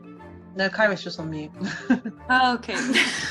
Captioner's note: laughs